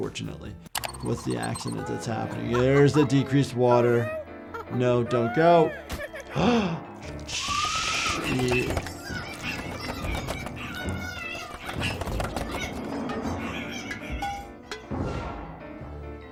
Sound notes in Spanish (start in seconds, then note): 6.2 el doctor jadea; 9.5 Flaky grita